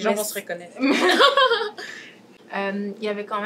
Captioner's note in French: rires